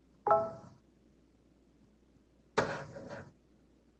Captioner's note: notification chimes